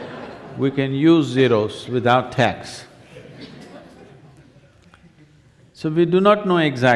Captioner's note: laughter; 笑聲; laughter; 笑聲